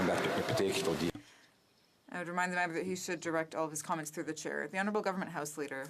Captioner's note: some Applause